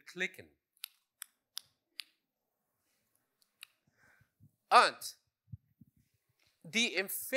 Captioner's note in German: Klicken